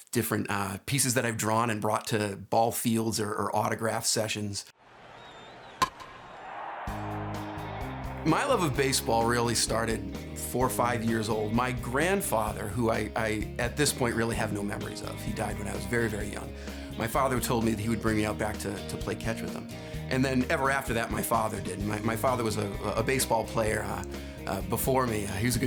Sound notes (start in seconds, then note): 4.8 crowd cheering; 5.8 baseball bat hits; 7.1 upbeat music